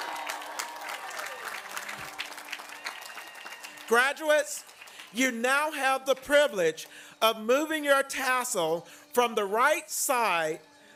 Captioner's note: applause and cheers